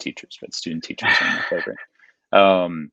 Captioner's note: laughing